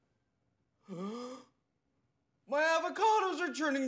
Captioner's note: gasps